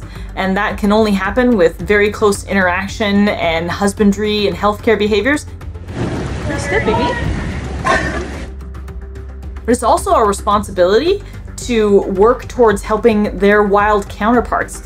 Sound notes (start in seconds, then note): 5.5 background music; 7.7 walrus vocalizes; 8.7 background music